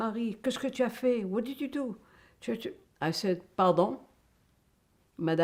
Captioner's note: french